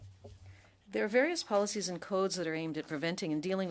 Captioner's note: speaking French